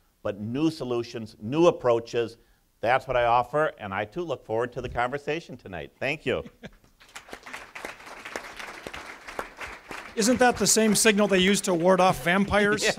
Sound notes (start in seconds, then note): 7.0 audience applause